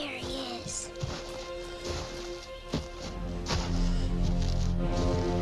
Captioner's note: footsteps rustling; dramatic plodding music